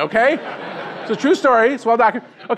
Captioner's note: crowd laughing